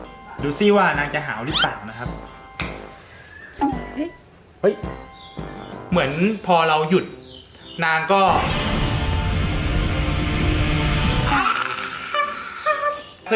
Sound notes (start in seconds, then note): 8.5 Godzilla Roar